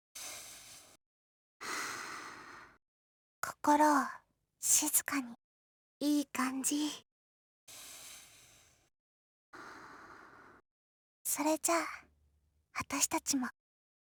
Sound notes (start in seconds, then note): 1.6 inhale; 1.6 exhale; 8.3 inhale; 9.6 exhale